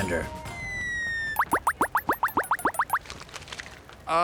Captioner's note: beeping